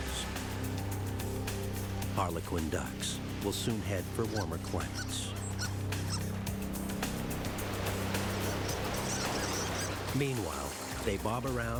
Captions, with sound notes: ICE SLOWLY BUILDS AROUND ITS EDGES. HARLEQUIN DUCKS WILL SOON HEAD FOR WARMER CLIMATES. [ BIRDS CHIRPING ]